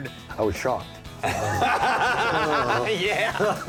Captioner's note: laughs